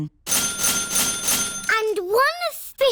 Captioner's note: dinging